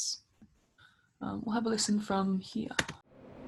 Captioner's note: train sounds